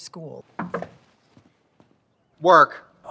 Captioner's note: fist knocks